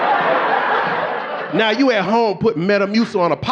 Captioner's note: audience laughing